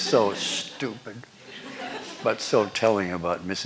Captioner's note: laughter